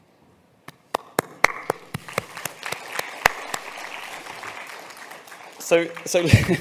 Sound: applause

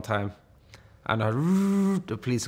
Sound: mouth buzzes

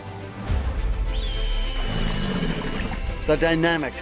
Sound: bird screeches; alligator growls

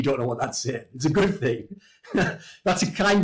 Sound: laughs

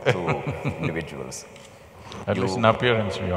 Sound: laughs

